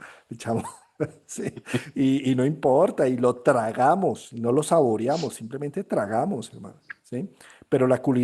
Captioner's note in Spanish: risas